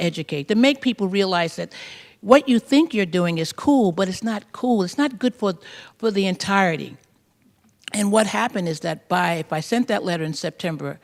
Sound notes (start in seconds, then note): none